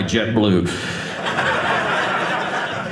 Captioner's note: audience laughing